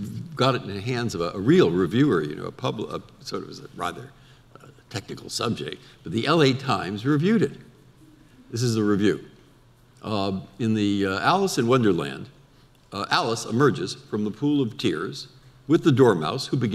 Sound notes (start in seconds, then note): none